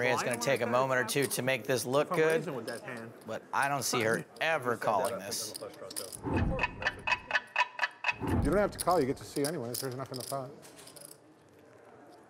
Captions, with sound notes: I think Maria's gonna take a moment or two to make this look good, but I don't see her ever calling this. (clocking ticking) - You don't have to call, you get to see anyways. There's enough in the pot.